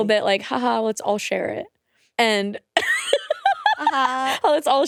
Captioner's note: laughs